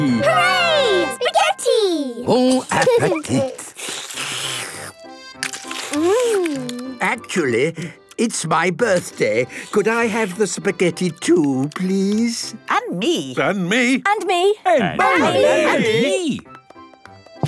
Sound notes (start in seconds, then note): 3.2 slurping; 12.8 calling out in turn